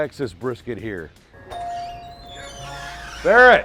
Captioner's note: door bell ringing